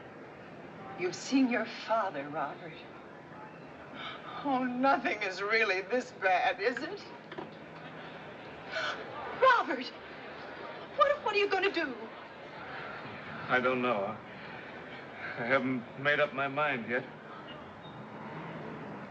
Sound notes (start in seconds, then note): 8.6 gasps